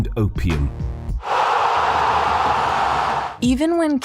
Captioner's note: crowd cheers